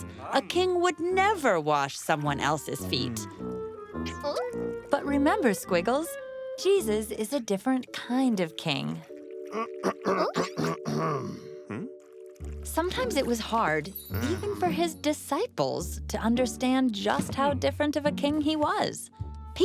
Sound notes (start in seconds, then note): 9.5 clearing throat